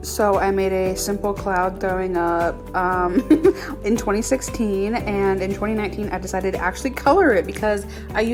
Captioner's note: laugh